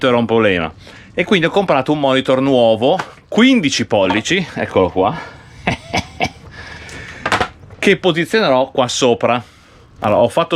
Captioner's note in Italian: risate